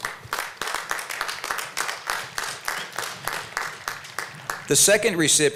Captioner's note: applause